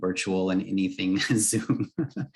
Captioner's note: brief laughter